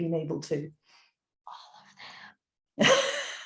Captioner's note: whispers